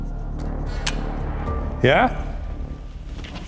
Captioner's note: camera clicks; camera whirring